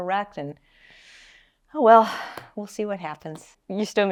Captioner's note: sighs